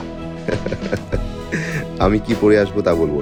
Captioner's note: Munna chuckles